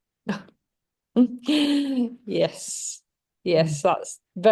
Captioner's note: laughs